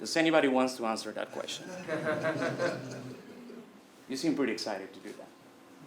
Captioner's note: laugh